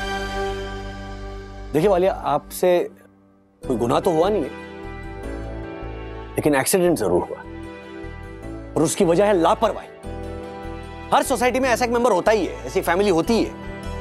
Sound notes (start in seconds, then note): none